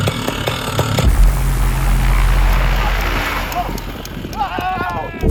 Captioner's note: motor revving